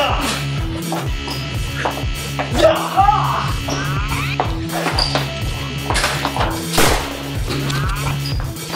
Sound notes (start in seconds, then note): 6.8 bang!